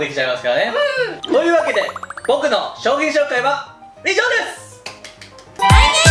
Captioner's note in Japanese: 拍手